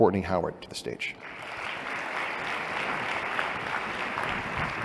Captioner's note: applause